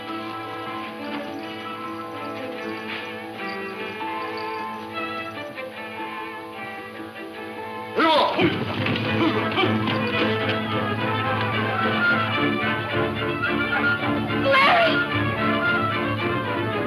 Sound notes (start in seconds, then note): 7.8 man speaking in foreign language; 9.4 dramatic music